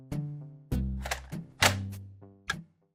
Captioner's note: satisfying click; flick